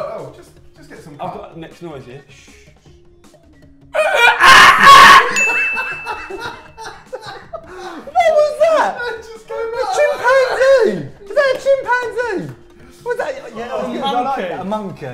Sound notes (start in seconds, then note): 4.0 crazy monkey noise; 5.3 ding; 6.2 laughing